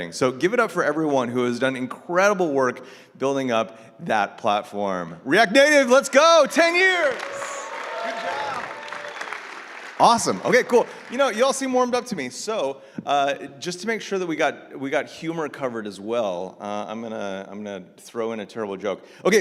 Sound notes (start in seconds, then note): 7.5 audience cheering